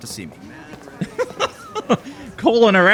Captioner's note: laughter